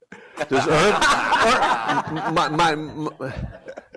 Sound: laughter

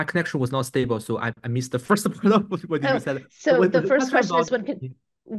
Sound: laughs

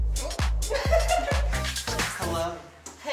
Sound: laughs

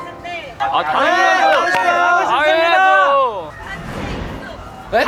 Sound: agrees fervently

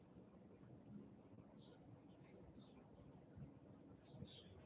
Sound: birds chirping

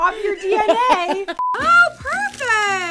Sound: short beep

